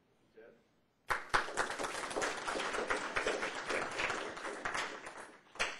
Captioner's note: applause